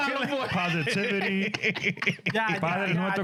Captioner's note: speaking In Foreign Language